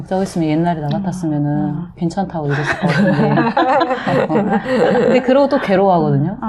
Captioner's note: laughter